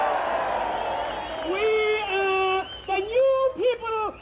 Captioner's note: cheering and applause